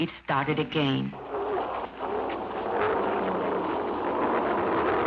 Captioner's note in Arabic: محرك السيارة يدور